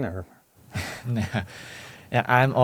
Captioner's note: laughs